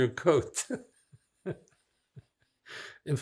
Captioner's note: laughing